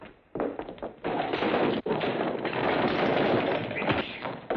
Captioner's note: chairs clattering